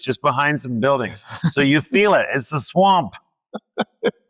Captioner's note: laughs